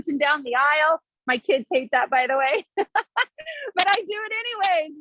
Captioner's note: laughs